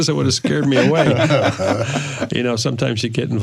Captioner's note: laughter